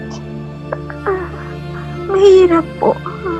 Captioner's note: crying